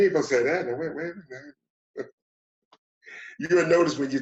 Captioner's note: chuckles; laughs